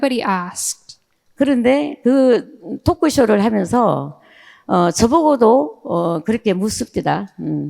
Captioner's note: speaking in foreign language